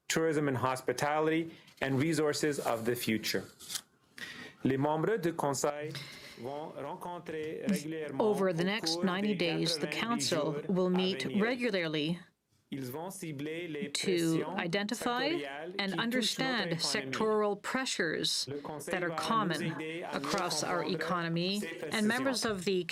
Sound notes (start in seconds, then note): 11.6 speaking French